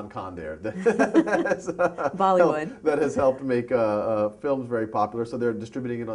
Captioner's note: laughter